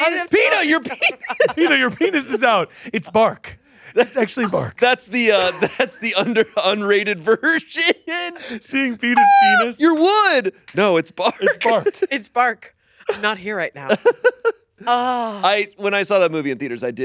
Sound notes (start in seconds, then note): 9.0 laughs; 15.1 sighs